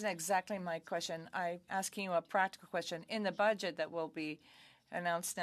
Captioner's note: speaking French